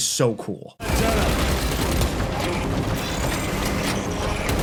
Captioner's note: gunshots firing